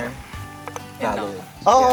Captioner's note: bong